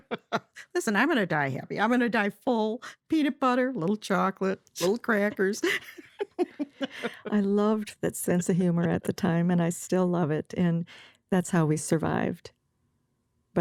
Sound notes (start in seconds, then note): 4.8 laughs